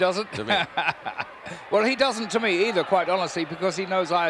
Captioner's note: laugh